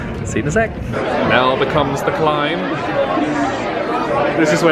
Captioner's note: guests talking loudly